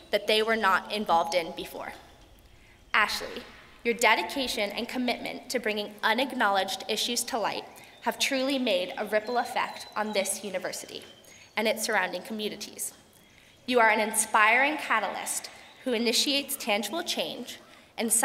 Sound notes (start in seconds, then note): none